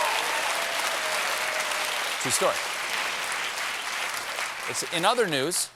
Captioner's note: cheers and applause